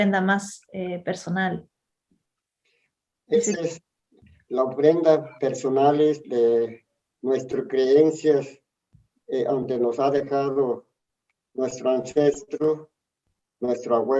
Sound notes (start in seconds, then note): 0.0 speaking Spanish; 2.6 speaks in Spanish